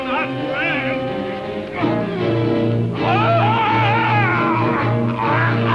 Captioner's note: screaming